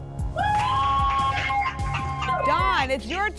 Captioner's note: applause and cheering